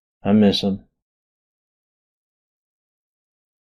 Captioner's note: long intentional silence